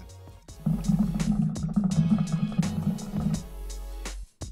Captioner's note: hookah sound